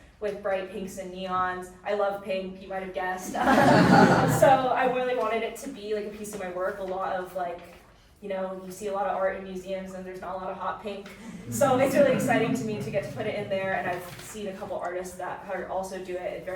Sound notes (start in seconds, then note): 3.3 audience laughing; 11.1 audience chuckling